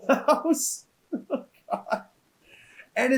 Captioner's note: laughs